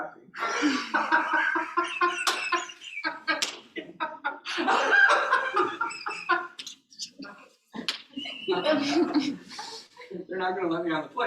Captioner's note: laughter